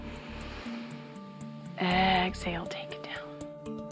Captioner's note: all inhale